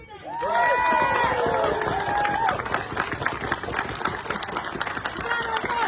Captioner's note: audience cheering; audience applauding